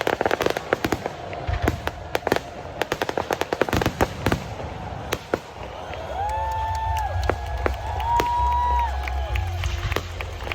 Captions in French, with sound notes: Abreuve nos sillons !" [Applaudissements] [Cries de la foule]